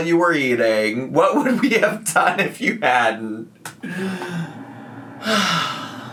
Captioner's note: sighs